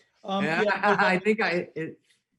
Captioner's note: laughing